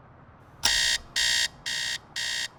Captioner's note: beeping Sound